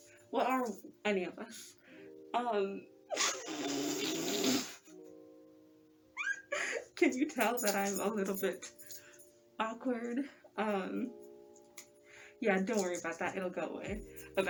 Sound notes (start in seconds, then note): 3.2 snort